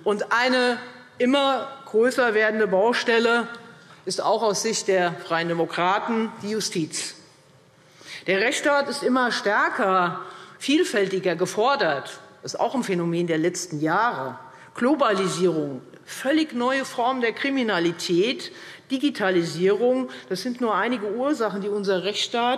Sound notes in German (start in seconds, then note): none